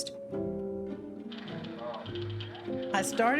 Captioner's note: typewriter keys clacking